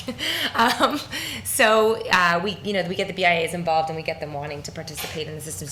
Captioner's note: laughs